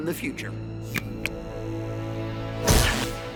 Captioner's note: button click